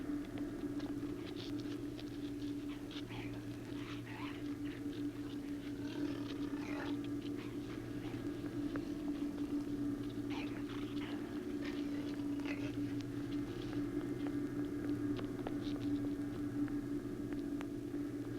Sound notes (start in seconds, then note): 3.4 growling